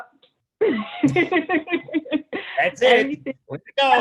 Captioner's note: laughing